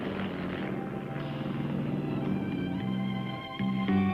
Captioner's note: plane rumbling